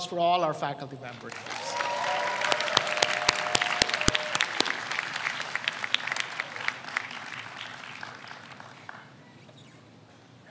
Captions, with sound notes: for all our faculty members. (audience applauds)